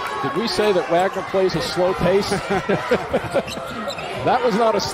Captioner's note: laughter